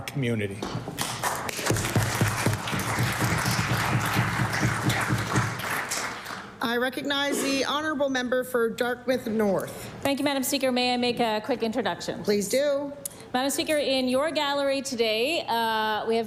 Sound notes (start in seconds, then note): 4.2 applause